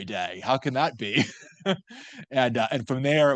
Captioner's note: laughs